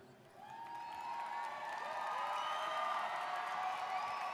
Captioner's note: audience cheers